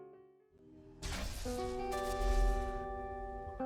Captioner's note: slow mechanical whooshing; soft, electronic music; mechanical chugging